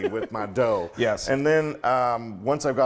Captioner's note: laugh